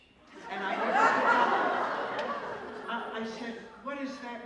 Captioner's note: laughter